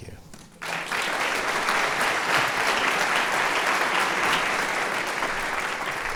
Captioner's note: applause